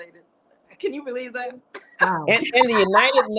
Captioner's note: laughs